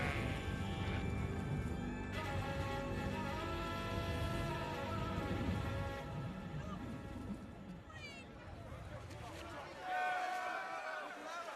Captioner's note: crowd chattering